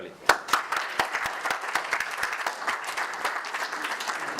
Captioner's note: audience applause